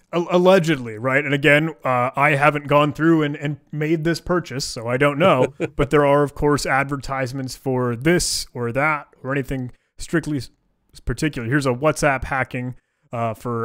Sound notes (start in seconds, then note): 5.1 laughing